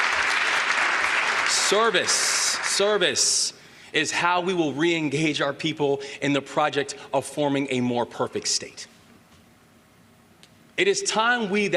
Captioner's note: applause